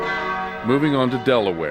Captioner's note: church bells